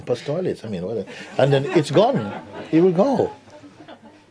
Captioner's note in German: Lachen